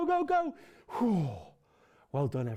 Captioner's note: sighing